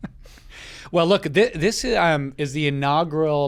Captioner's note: chuckles